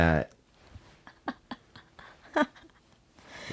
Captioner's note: laughs